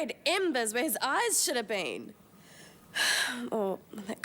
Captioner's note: sighs